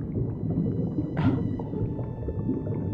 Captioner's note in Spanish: quejido